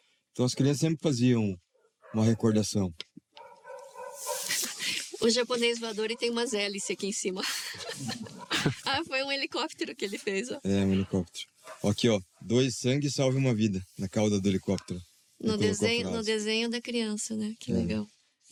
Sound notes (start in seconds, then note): 7.4 laughter